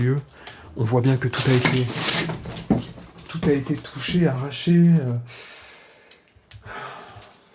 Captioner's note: sighs